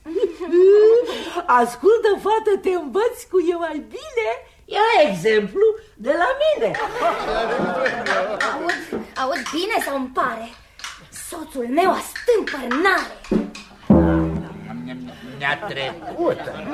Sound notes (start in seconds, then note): 0.0 laughter